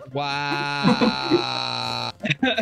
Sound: laughing; laughs; concluding chuckles

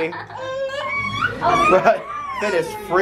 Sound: fussing

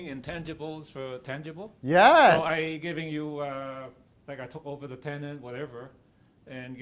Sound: crowd

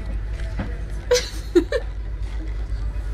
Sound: laughs

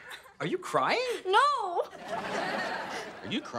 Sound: audience laughing

